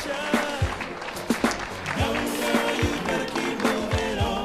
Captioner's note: applause